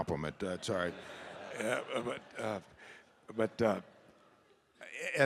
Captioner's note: audience laughing